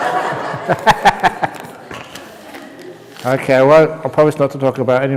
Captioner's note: laughter